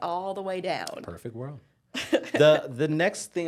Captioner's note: laughing